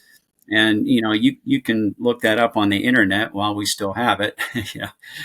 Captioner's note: chuckles